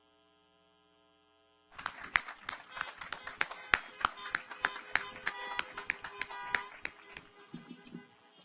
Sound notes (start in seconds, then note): 1.7 audience applauds; 2.4 car horns honking